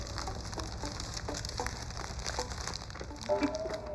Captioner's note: paper crumpling; paper fan rustling